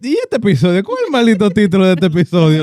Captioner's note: speaking In Foreign Language